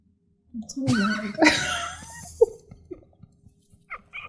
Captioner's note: laughing